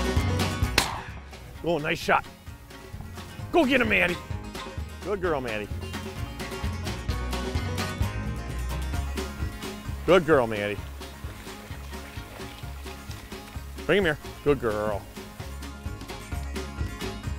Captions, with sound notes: (gunshot echoing) - Oh nice shot. Go get him Maddy. Good girl Maddy. Good girl Maddy. Bring him here, good girl.